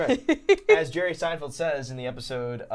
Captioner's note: giggling